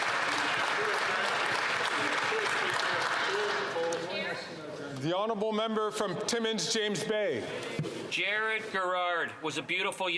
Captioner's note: some Applause